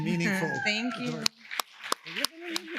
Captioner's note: woman cheers; audience applause